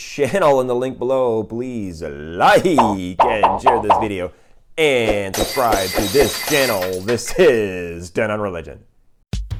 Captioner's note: glass breaking